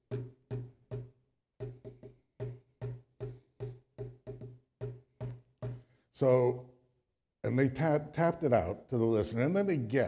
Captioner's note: tapping